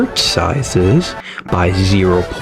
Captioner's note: inhales Oxygen